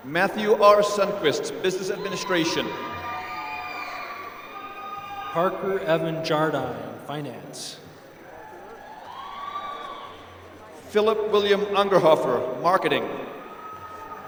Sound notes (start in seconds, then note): 2.8 applause; 8.6 applause